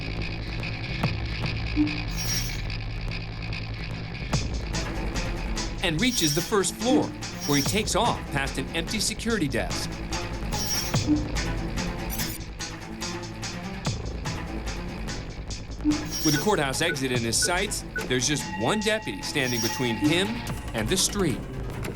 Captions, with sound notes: [computer beeps] And reaches the first floor, where he takes off past an empty security desk. With the courthouse exit in his sights, there's just one deputy standing between him and the street.